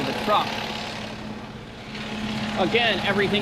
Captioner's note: truck engine running